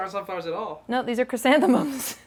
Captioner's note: laughs